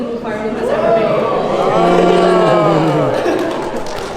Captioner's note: audience Whoas